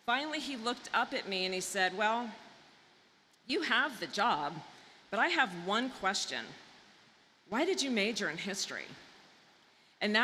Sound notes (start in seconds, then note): none